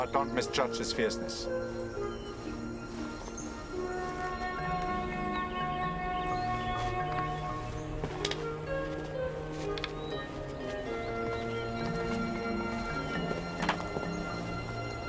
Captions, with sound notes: but don't misjudge his fierceness. (hands clasping) (footsteps) (hands clasping)